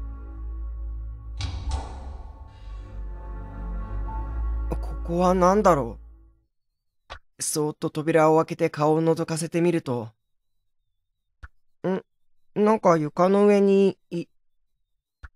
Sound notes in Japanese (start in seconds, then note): 1.3 扉の開閉音：ガッコン